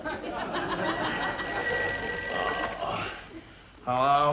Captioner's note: phone rings